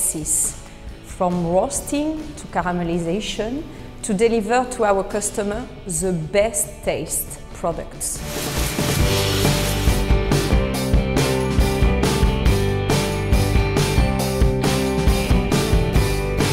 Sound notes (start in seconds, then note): 8.5 rattling; 10.8 rock music